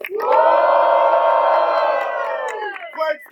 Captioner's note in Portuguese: Plateia: palmas e assovios